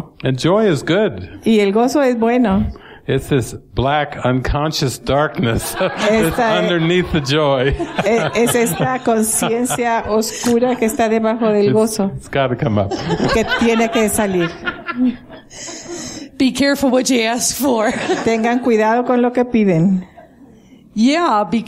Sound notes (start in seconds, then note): 9.0 laughter